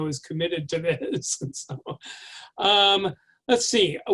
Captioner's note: chuckles